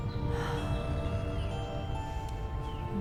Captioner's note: sighs